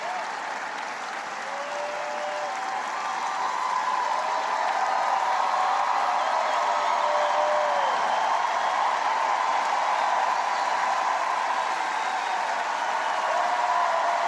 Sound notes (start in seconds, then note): 2.5 applause